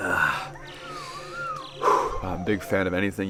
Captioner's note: exhales sharply